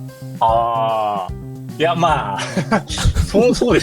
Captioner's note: laughs